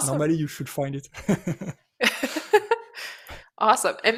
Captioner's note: laughter